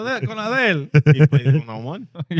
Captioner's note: speaking In Foreign Language